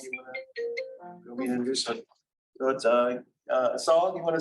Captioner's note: ringtone playing